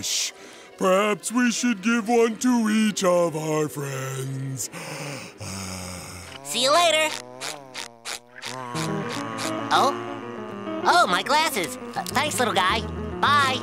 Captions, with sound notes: Perhaps we shall give one to each of our friends. See ya later. [buzzing] Oh? Oh, my glasses. Thanks, little guy. Bye.